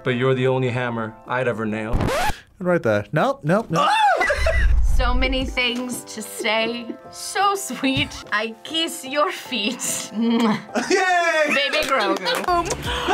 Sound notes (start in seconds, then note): 1.9 record scratches; 3.7 both laugh